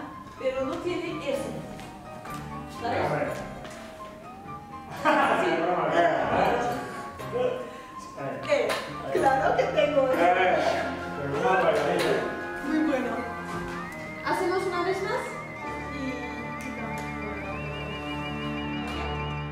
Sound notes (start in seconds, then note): 5.9 sniggers; 9.1 giggles